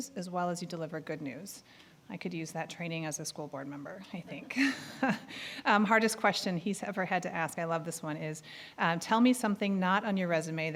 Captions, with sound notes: as well as you deliver good news. I could use that training as a school board member, I think. (chuckling) Hardest question he's ever had to ask-- I love this one-- is "Tell me something not on your resume